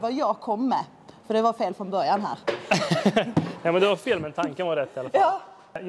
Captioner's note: laughs